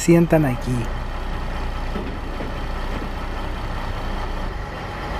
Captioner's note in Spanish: sonido del motor y tren comenzando a circular